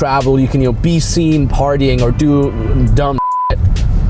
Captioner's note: beep